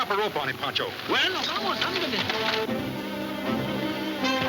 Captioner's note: speaking Spanish; exciting orchestra music